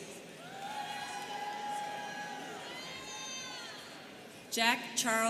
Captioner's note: students cheering